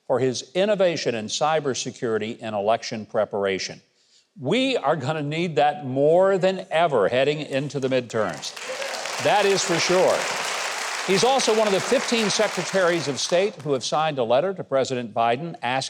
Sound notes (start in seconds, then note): 7.5 audience applauds